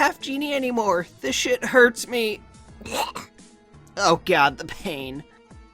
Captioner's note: coughs out blood